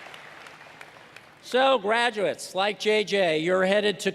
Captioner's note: cheers and applause